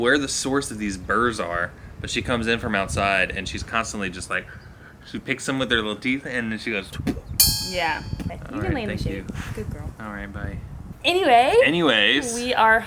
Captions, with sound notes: where the source of these burs are, but she comes in from outside and she's constantly just like, she picks some with her little teeth and then she goes (making popping sound). (object clanging) - Yeah, you can lay you. Thank you. Good girl. - Alright, bye. - Anyway. - Anyways.